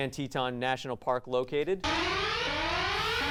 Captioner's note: alarm sound